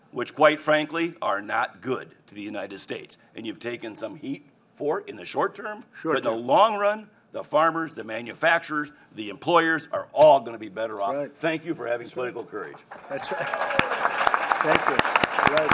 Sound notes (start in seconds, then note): 13.6 laughs